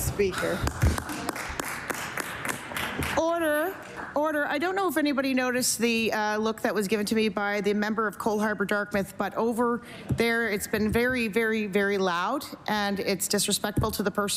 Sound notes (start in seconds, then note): 3.9 applause